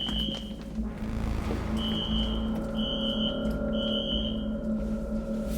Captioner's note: alarm screeching continues